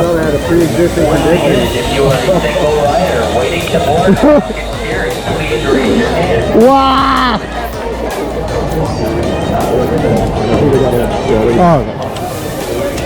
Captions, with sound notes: - What if I had a preexisting condition? - (laughing) Whaaa! - I think we gotta, gotta, - Oh.